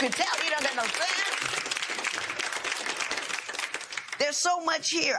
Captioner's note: applause